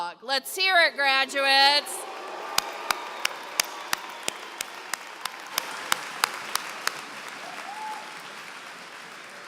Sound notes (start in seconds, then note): 1.9 applause